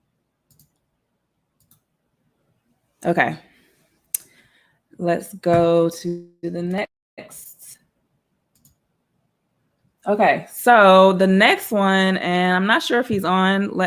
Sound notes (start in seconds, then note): 1.6 computer mouse clicking